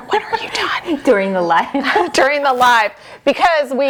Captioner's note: laughs